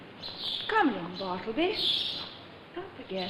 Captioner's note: birds chirping